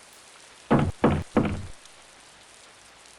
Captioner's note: knocking on door